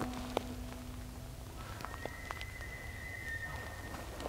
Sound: elk bugling

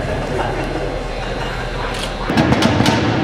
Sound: laughing

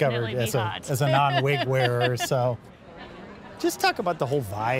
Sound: laughs

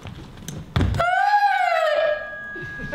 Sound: high shreak

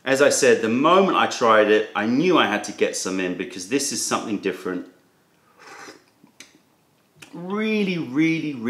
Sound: sips tea

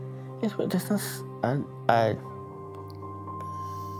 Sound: stutters

